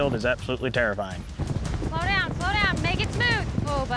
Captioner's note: galloping